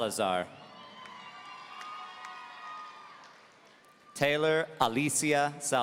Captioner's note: audience cheering